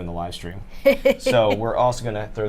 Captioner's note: snickers